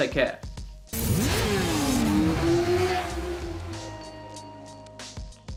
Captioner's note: engines revving